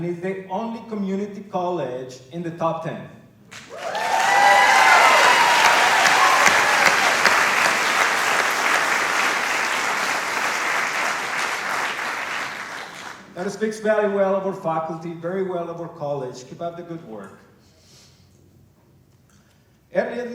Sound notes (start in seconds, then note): 3.5 cheering and applause